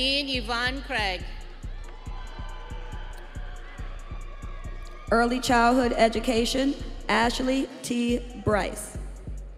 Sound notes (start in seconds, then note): 4.5 audience cheering